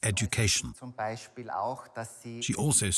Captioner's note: speaks in foreign language